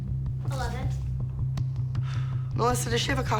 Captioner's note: exhales